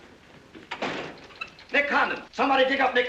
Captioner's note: door opens